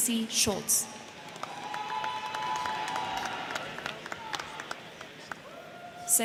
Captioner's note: crowd cheering; crowd clapping